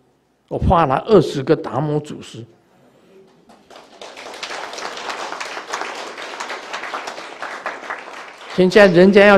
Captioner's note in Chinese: 眾鼓掌